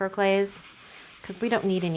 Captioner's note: tissue wiping